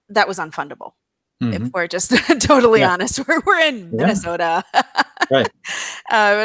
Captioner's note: laughs